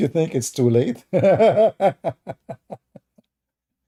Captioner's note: Ketawa